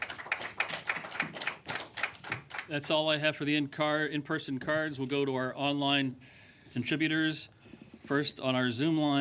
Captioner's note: applause